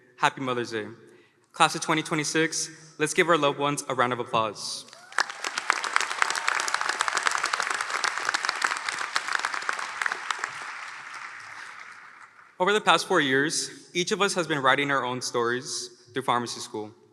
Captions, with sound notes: Happy Mother's day. Class of 2026. Let's give our loved ones a round of applause. [Applause] Over the past four years, each of us has been writing our own stories through pharmacy school.